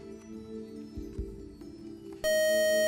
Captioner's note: beep